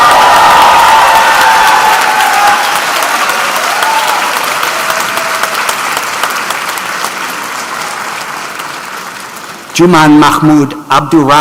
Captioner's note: cheers and Applause